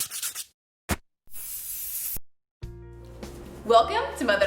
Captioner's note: sketching on paper; paint can sprays